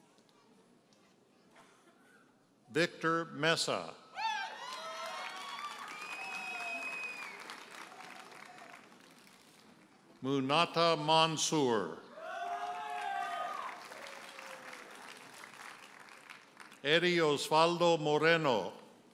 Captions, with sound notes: Victor Meza. (audience cheers and applauds) Mounata Monsur. (audience hollers and applauds) Eddie Osvaldo Moreno.